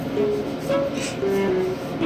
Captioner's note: sniffle